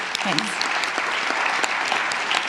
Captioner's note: applause